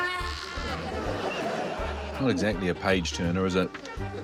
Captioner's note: groans, yells